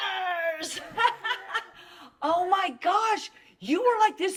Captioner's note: laughs